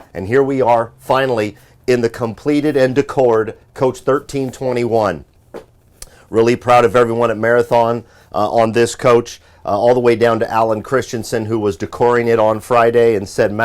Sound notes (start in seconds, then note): none